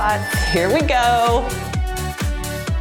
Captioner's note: timer beeps; cheerful music